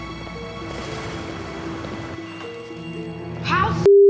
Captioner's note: bell jingles